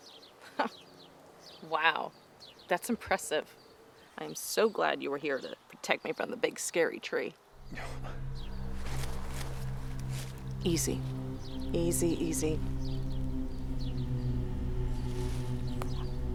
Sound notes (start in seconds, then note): 0.4 chuckles; 8.3 rustling; 12.6 tense music